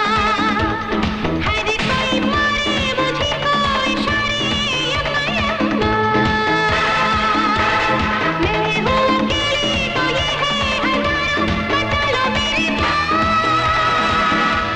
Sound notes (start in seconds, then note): none